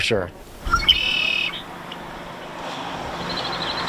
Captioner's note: birds chirping